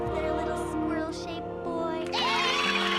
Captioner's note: squirrels cheering